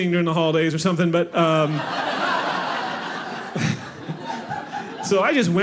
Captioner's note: audience laughing